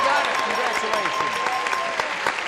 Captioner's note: applause; ding